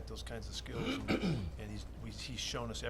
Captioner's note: clears throat